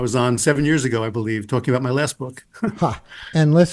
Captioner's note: chuckles